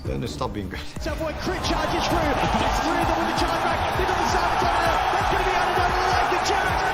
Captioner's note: crowd continues cheering